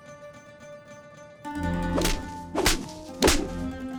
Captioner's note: smacking